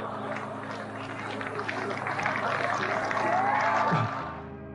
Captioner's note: audience applauding